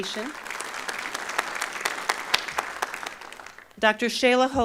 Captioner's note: applause